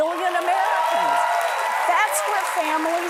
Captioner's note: applause